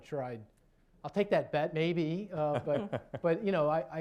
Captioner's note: laughter